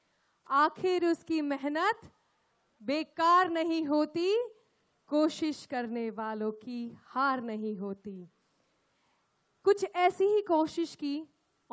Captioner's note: speaks in Hindi – not transcribed